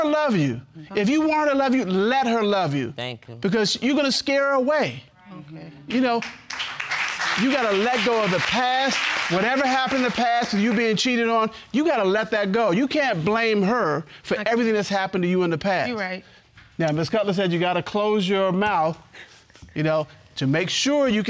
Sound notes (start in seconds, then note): 6.0 audience applauding